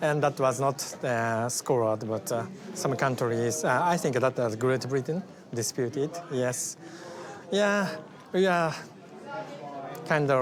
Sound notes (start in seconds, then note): none